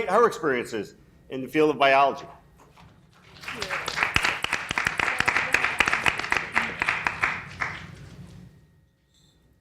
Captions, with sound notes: her experiences in the field of biology. - Thank you. (people clapping) (clapping drowns out speech)